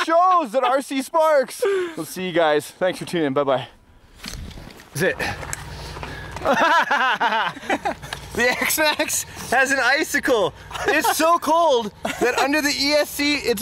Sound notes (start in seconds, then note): 0.0 laughing; 6.1 laughing